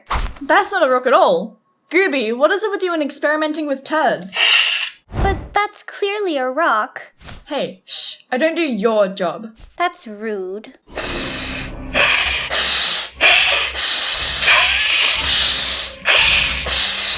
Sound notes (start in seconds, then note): 4.3 Gooby hisses; 10.9 Snewpee hisses